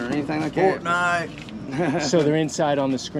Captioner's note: man laughs